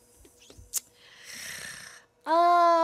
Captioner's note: clicks tongue, inhales deeply